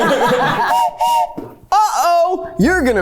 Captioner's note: everyone laughs; whistle blows